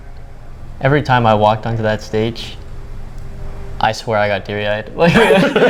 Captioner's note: laughs